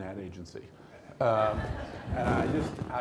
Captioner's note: laughter